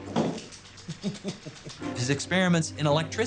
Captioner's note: laughs